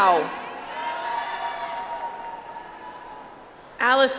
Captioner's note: audience applauds